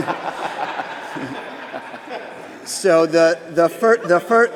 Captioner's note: laughter